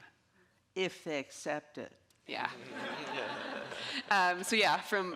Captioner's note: audience laughing